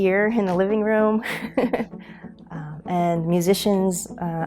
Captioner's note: laughing